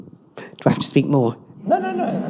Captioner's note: all laughing